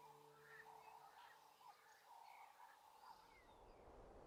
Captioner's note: birds chirping